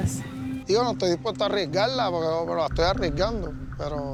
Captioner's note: speaking Spanish